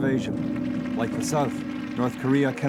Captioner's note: people applauding